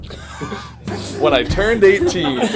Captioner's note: laughs